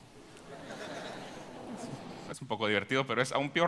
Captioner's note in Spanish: Risas